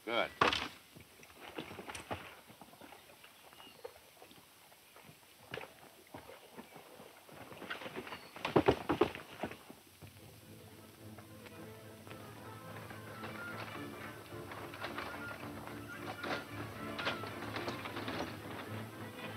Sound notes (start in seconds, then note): 12.2 fast tense music; 13.6 wagons rattling